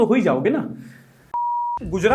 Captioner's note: beep